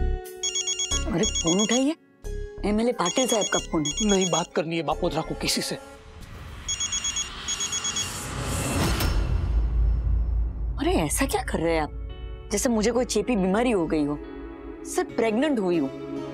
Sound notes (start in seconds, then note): 6.6 phone ringing